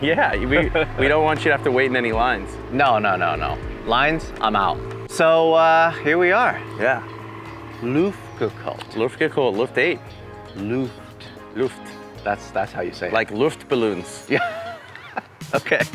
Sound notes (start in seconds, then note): 14.3 laughs